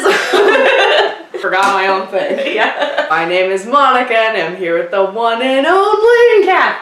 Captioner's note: laughter